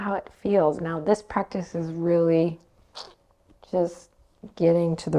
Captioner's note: clicks tongue